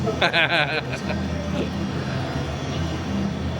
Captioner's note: laughing